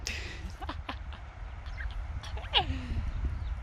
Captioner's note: laughs